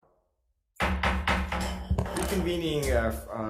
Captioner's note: gavel thumping